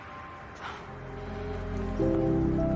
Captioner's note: Rachel gasps; gentle music